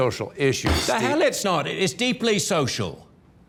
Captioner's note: fist pounds on table